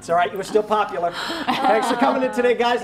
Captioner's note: laughter